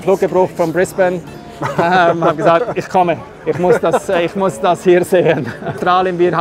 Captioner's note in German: lacht